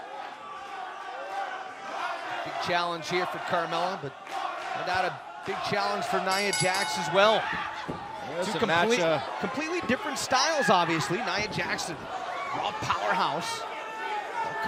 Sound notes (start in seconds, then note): 7.8 bell